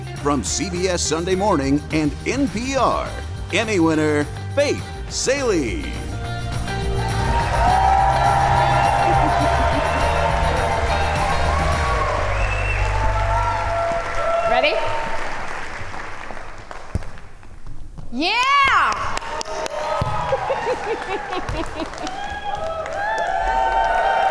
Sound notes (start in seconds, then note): 7.8 audience cheer; 20.3 giggles; 24.1 audience cheers